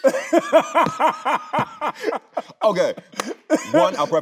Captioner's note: Tyler laughing; both laughing